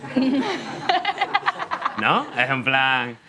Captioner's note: laughing